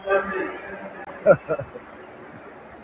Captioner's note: laughs